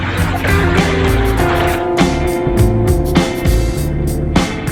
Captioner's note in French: Son de l'eau déplacée par le dinghy